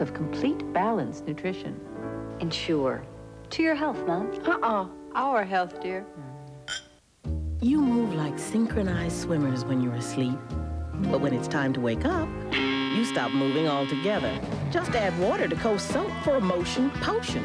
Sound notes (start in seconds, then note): 10.3 alarm Buzzes